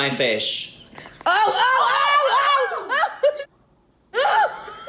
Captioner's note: people behind the camera shouting